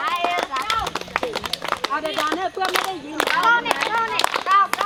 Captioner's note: all clapping rhythmically